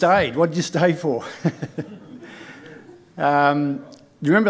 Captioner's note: chuckling